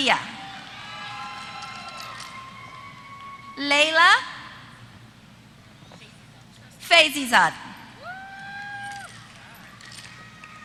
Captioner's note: applause